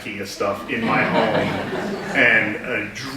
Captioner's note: audience giggles